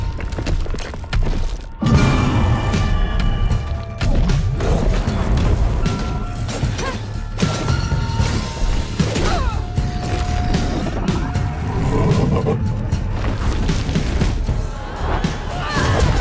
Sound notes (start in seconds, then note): 1.9 roaring; 8.2 Hazel grunting